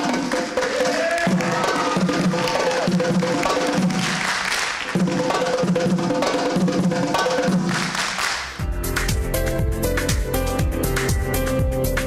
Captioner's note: applause